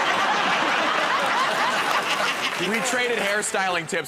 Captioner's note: laughter